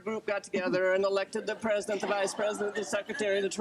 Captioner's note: group laughter